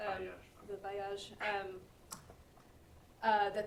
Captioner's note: french